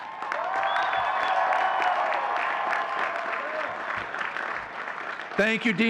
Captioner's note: audience cheering and clapping